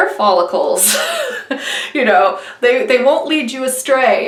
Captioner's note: laughing